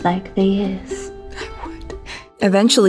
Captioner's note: Olivia whispering